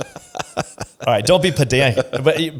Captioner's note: laughs